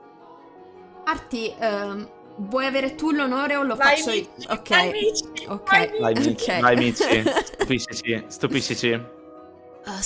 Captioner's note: laughing